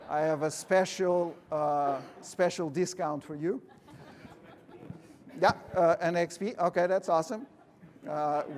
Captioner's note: laughter